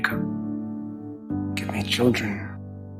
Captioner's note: voiceover